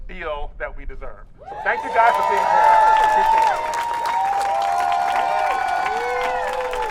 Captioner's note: audience cheering